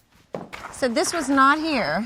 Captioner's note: footsteps thudding